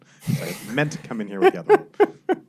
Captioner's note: laughs